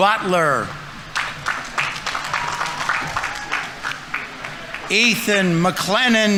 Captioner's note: audience applauding